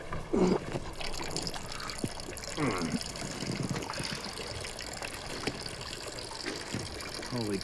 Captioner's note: mitch urinating